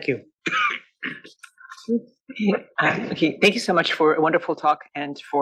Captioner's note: cough